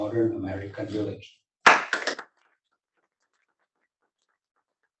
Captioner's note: applause